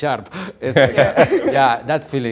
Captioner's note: group laugh